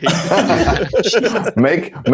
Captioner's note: laughter